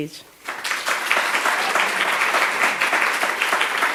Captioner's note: applause